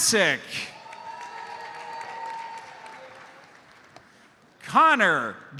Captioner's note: audience cheers and applauds